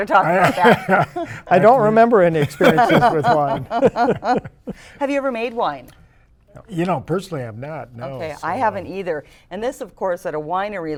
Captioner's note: laughter